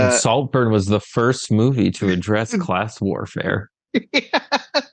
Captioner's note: sarcastically